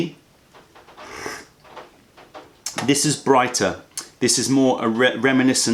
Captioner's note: sips tea